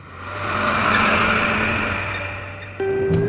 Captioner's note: tractor engine